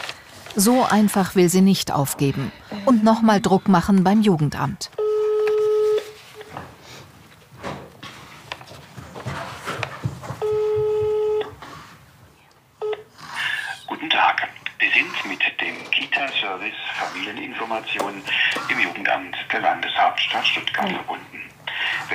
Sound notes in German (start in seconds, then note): 5.0 Freizeichen